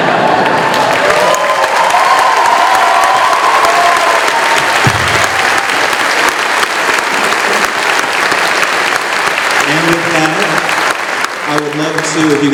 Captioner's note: cheering